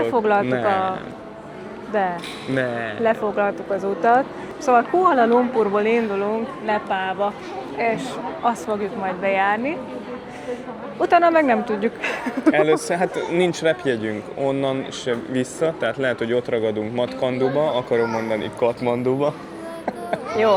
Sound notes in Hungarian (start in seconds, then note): 12.0 nevetés